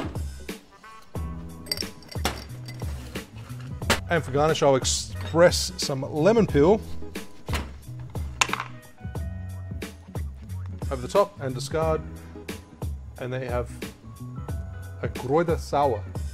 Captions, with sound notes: (relaxing jazz music) (ice rattling) And, for garnish, I'll express some lemon peel over the top and discard. And there you have a Krauter Sauer.